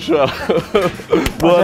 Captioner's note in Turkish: Gülüşmeler